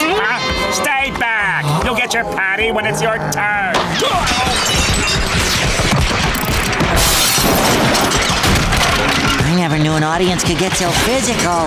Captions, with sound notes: Stay back! You'll get your patty when it's your turn. [banging, stuff breaking] I never knew an audience could get so physical.